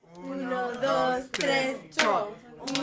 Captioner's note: clapping